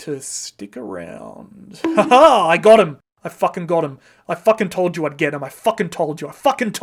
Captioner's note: bonk!